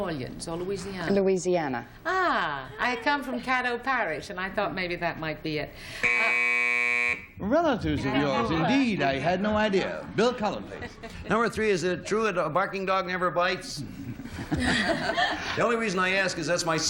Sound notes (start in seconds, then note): 7.8 buzz; 15.4 laughter